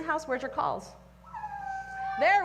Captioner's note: howl